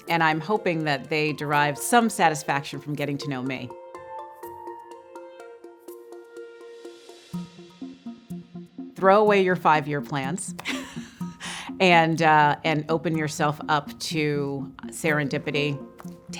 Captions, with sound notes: And I'm hoping that they derive some satisfaction from getting to know me. (thoughtful music) Throw away your five-year plans. (chuckles) And open yourself up to serendipity.